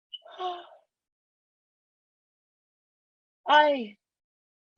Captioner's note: gasping